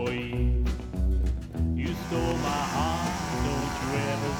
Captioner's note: saw buzzes